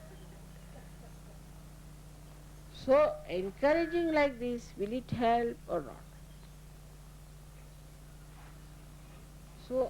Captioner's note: laughter